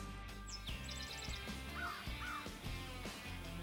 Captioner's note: birds chirping